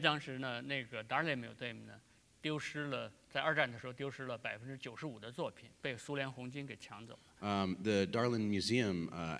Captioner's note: speaking in Chinese